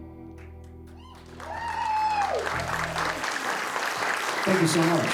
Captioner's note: applause